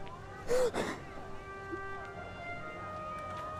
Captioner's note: crying